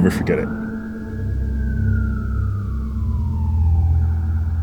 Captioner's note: police siren